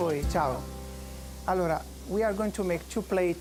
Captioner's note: speaking Italian; with Italian accent